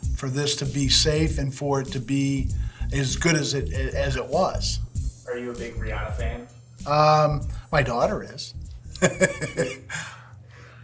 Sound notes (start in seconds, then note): 8.9 chuckles